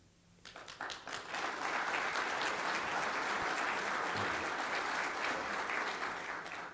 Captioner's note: applause